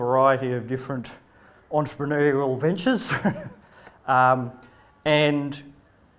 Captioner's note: laughs